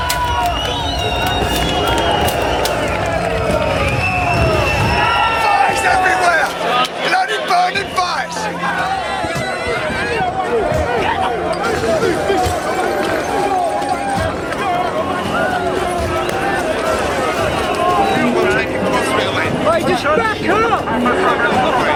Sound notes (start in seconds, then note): 9.9 hitting sounds